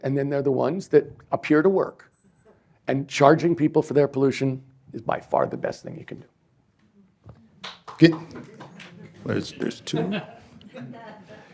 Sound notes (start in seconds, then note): 7.6 applause